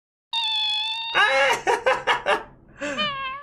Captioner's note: chirping; enthused giggling; weird meowlike sounds